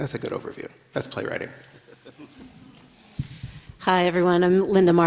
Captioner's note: everybody laughs